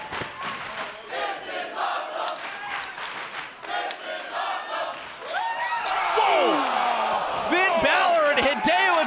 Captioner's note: fans chanting